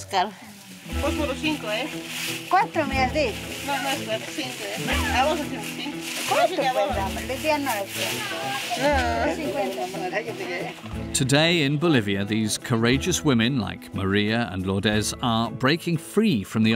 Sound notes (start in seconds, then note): 2.8 villager speaking in foreign language; 5.2 speaking in foreign language; 7.7 villager speaking in foreign language; 9.8 speaking in foreign language